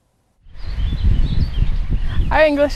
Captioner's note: nature sounds